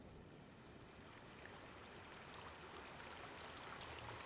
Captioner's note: water flowing